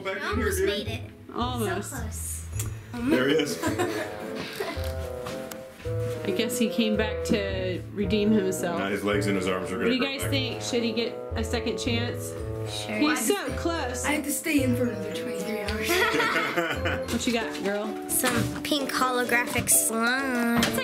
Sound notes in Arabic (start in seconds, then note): 15.8 ضحك